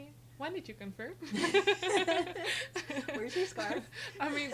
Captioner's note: laughing